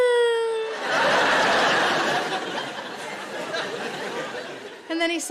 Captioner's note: audience laughing